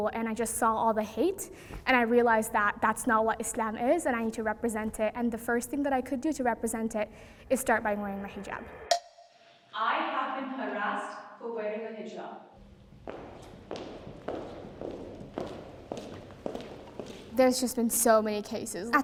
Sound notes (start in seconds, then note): 8.9 timer taps; 12.6 footsteps approaching